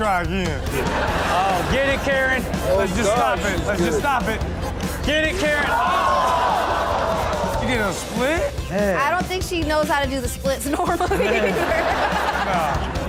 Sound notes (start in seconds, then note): 0.6 audience laughs; 6.6 audience gasps; 10.6 Chanel and audience laugh